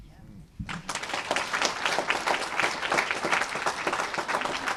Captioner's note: applause